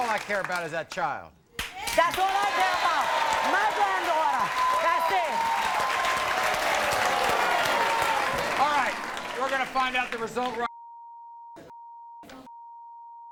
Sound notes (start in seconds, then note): 5.2 audience cheers